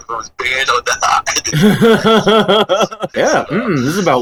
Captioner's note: laughs